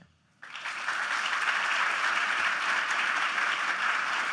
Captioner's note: applause